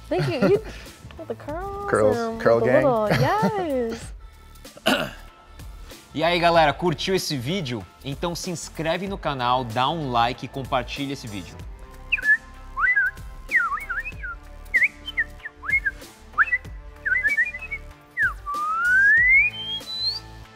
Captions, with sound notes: - Thank you, you got the curls. - Curl gang. - Yes. (in foreign language) (cheerful bird chirping)